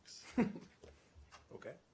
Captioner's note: laughter